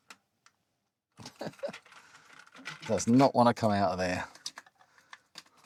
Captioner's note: laughs